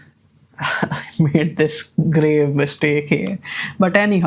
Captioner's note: laughs